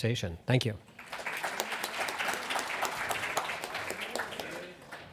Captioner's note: audience applauds